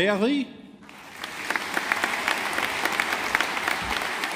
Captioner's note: audience applauding